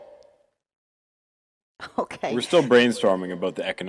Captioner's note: laughing